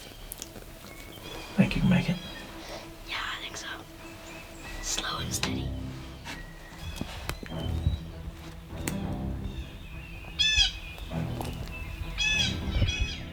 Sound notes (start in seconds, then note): 1.7 whispering